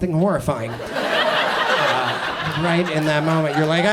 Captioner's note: audience laughs